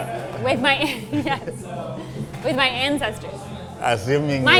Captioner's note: laughs